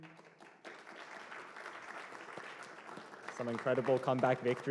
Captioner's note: applause